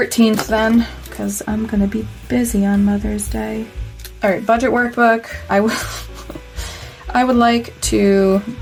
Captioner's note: pitiful laughter